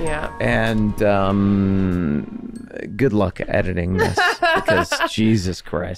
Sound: Meg laughing

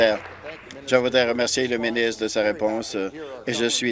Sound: applause

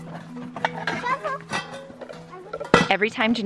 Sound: pots clang

